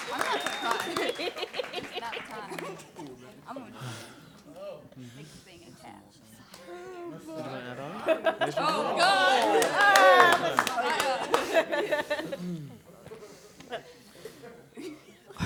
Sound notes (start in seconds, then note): 3.3 chatter and laughter